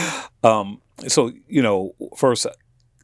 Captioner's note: chuckling